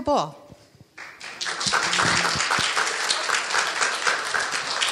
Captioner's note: audience applauding